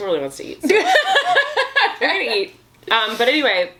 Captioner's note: laughs